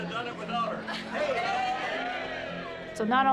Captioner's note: people cheering